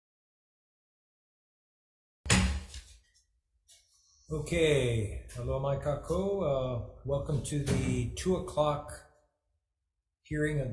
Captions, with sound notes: (gavel bangs) Okay (speaks in foreign language). Welcome to the 14:00 o'clock hearing